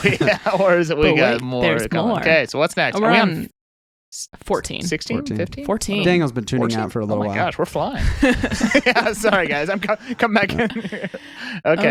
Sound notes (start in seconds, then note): 8.0 laughing